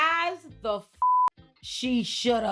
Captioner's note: beep